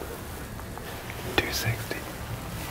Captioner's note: whispering; whispering